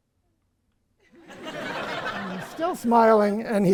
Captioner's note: audience laughs